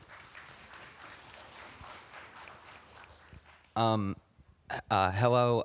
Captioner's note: applause